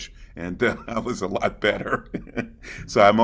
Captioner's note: chuckling